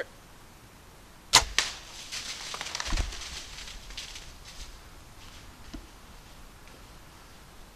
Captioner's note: deer call grunting; bow popping; leaves crunching